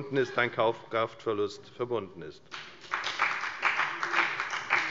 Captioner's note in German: Beifall bei der FDP